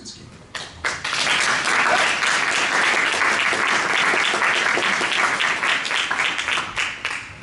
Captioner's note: applause